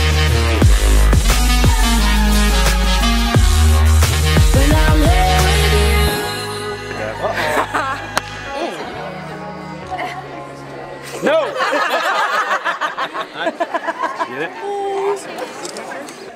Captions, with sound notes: - Uh-oh. (laughing) - No! (laughing) - You get it?